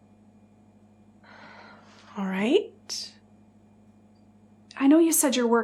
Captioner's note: sighs